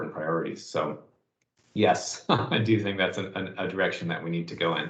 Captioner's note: chuckles